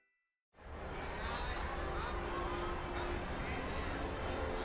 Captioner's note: audience chattering